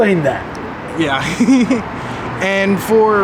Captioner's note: laughs